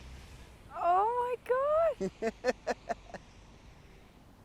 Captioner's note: Dean laughs